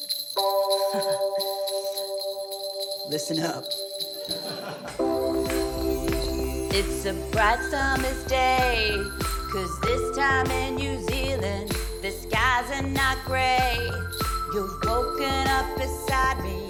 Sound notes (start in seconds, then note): 0.8 chuckles; 5.4 upbeat music